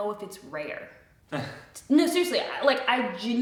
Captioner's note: chuckles